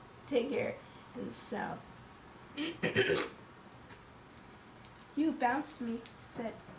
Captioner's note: clearing throat